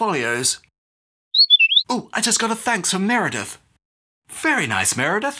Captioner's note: whistle blows